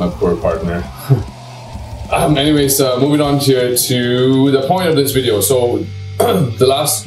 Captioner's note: laughs; clears throat